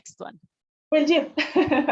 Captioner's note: foreign language; laughter